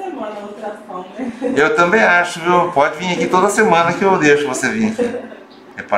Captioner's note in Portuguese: risos